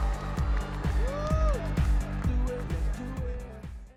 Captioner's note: audience applauding and cheering